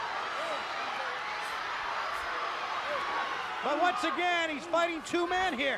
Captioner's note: crowd cheering